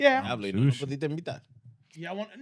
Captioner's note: speaking In Foreign Language